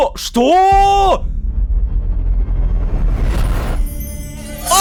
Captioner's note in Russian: Звук телепортации Искры